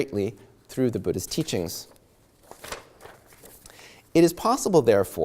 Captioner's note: flips pages